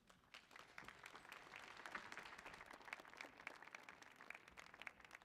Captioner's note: audience applauding